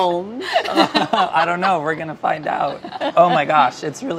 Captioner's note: laughs